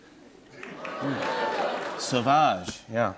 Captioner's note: cheers